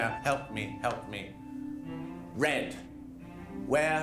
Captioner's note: none